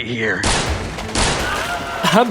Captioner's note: gunshots